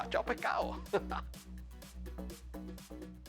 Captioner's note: laugh